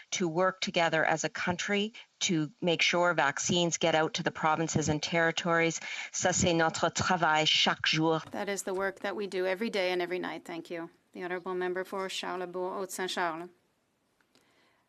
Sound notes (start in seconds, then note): 10.6 speaking French